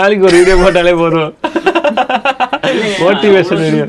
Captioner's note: laughs